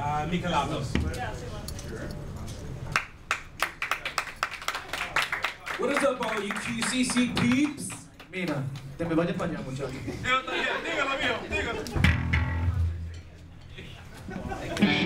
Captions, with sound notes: - Michaelados. (audience applauding) - What is up all you QCC peeps? Nina, (speaking in foreign language). (speaking in foreign language) (laughing)